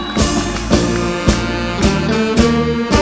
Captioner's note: applause